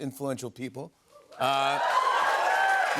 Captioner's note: cheers and applause